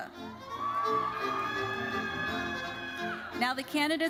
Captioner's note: audience cheering